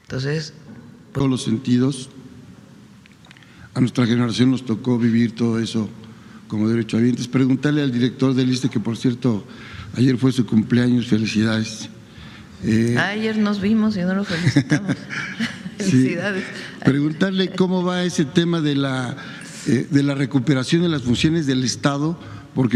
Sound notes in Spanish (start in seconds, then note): 14.3 risas